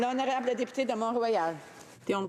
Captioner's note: some Applause